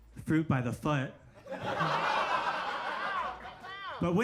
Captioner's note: audience laughs